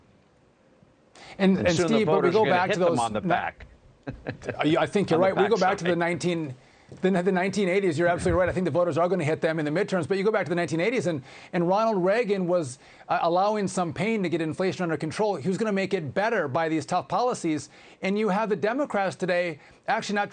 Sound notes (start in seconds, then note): 8.1 laughter